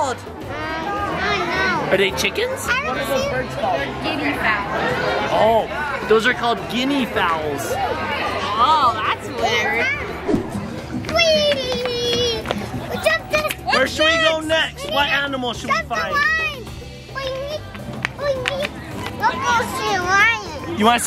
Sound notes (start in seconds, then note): 11.1 exciting shouts